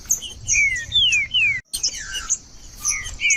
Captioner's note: trinca ferro cantando